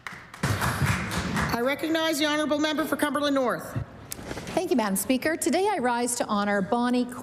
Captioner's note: applause